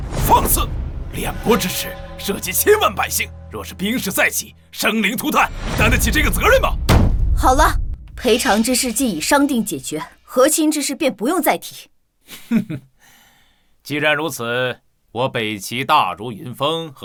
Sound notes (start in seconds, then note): 8.0 sound of object being placed or moved